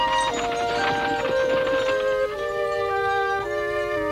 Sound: wagon rattling

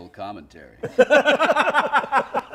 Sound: laughter

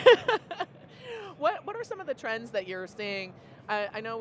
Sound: laughs

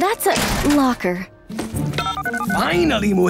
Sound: beeping

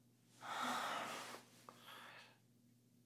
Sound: sigh

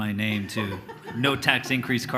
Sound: laughs loudly

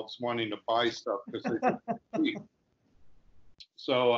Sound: laughing softly

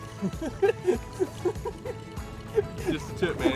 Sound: laughs

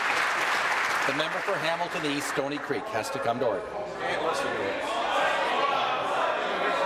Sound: applause

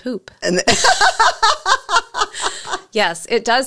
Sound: laughs

